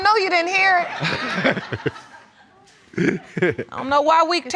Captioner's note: all chuckling; chuckling